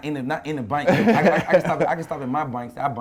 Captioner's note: laughing